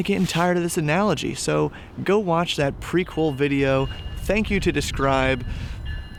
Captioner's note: train bell in background